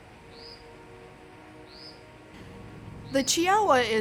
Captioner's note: bird squawking